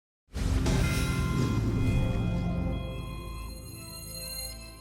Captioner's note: explosive air swish tag